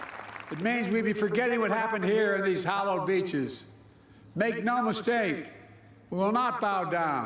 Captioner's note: applause